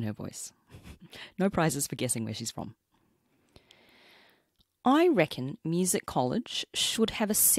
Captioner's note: aussie accent